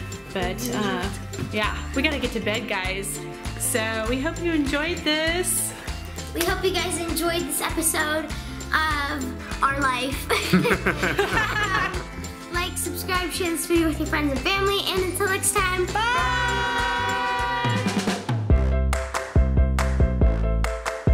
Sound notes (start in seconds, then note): 10.3 laughing; 18.3 upbeat music